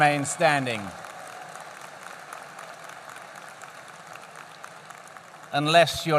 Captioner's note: applause